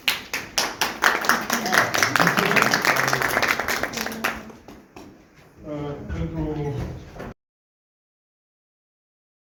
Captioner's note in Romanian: Aplauze